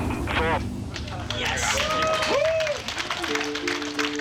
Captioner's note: cheering